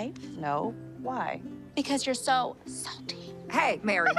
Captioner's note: whispers